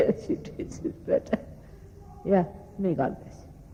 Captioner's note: laughing